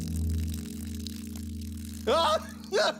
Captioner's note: crying